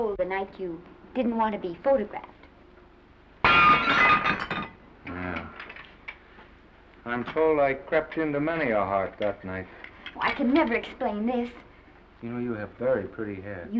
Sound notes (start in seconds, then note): 3.4 plate breaks